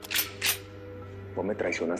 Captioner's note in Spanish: Sonido al cargar el arma